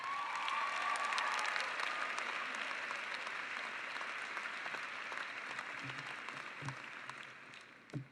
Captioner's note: cheering and applause